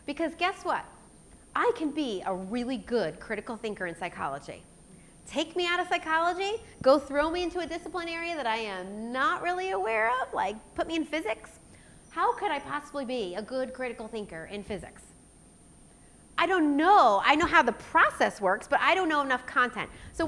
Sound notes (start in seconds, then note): none